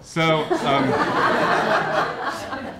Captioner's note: laughter